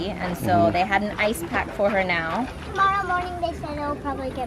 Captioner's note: none